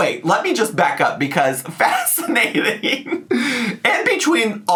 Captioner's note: laughs